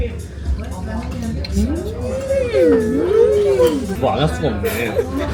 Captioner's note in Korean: 으으으으으으으으음